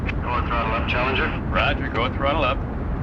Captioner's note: man On Radio